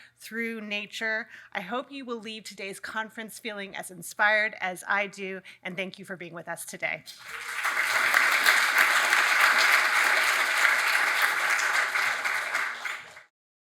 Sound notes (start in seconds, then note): 7.1 audience applauds